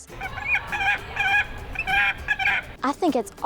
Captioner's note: bird squawking